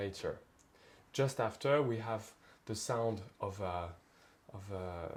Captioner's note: speaks French